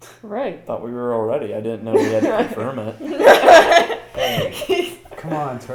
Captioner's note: everyone laughs